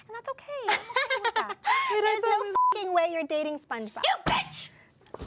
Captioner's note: beep